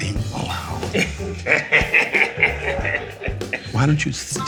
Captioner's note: laughing